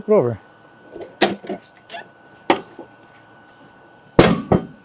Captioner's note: wood thudding